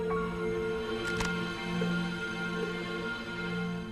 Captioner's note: clicking